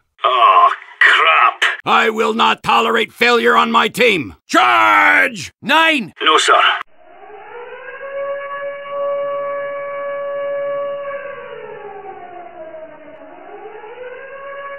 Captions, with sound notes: Oh crap! I will not tolerate failure on my team! CHARGE! Nein! No sir! [Air strike siren starts up]